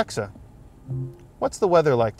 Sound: Alexa chimes

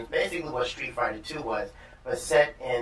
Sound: none

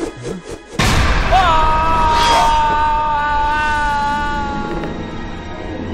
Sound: groans

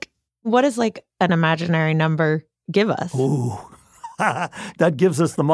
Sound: laughs

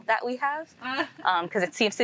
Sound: host laughing softly

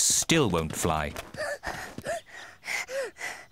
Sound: panting

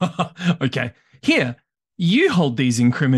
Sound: laughs

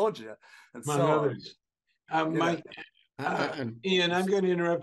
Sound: Stanford faintly speaking

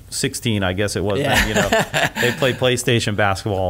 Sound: laughing

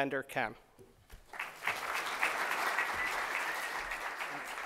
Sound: applause

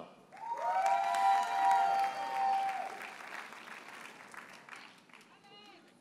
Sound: audience cheers and applauds

